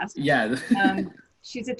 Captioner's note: laughs